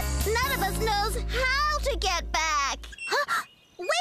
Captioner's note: gasp!